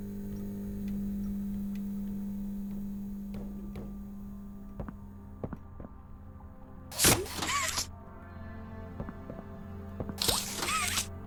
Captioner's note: gun fires